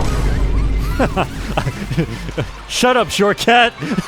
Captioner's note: laughs